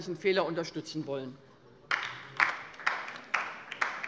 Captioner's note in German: Beifall bei der LINKEN